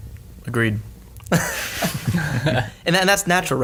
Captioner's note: all laugh